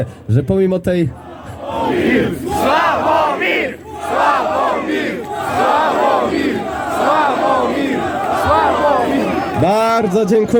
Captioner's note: crowd chanting